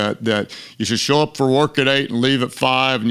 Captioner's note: lowers register